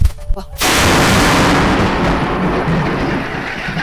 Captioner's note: loud thunder clap